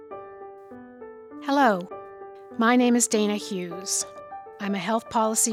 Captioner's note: voiceover